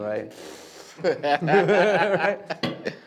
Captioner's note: laughter